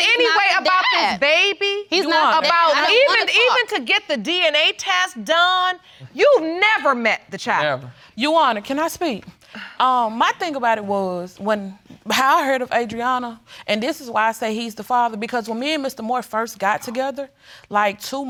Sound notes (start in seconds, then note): 8.6 sighs